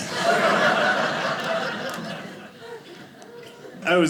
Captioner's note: audience laughing